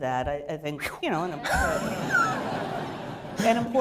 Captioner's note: laughter